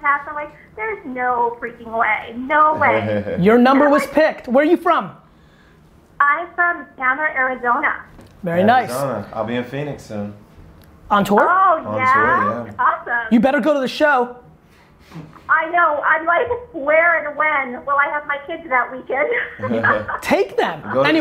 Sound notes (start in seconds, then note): 19.2 laughing